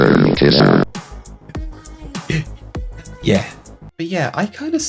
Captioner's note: mumbles embarassed